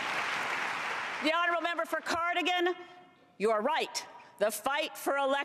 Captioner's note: cheers and applause